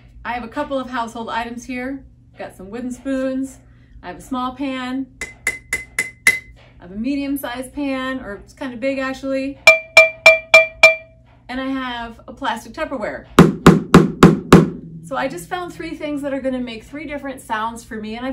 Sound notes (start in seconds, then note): 5.3 tink tink tink tink tink; 9.7 tap tap tap tap tap tap; 13.4 thud thud thud thud thud